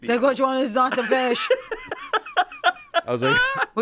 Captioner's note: laughs